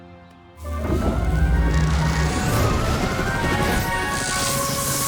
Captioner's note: whoosh; zap